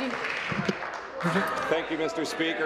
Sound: applause

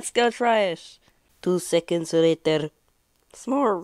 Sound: supposed to be french accent

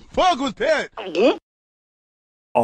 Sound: gulps

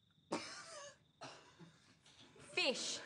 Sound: laughter

